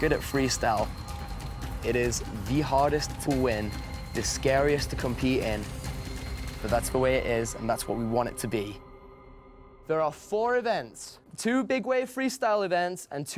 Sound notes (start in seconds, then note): none